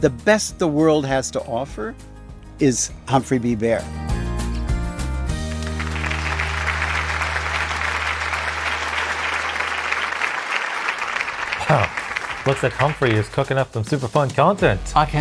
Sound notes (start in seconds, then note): 5.3 applause